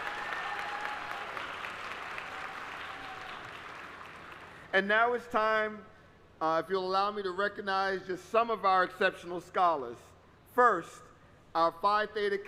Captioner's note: applause